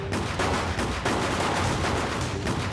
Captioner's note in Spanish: Disparos